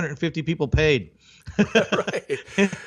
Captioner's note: chuckling